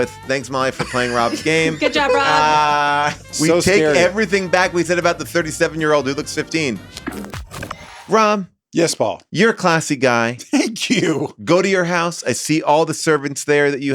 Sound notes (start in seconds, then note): 7.0 scene change crackling; 11.0 laughs